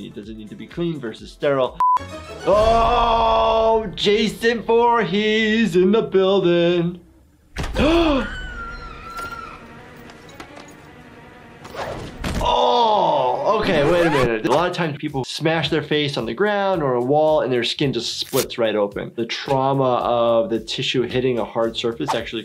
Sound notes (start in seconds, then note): 7.7 victim screaming; 7.7 gasps; 8.7 suspenseful music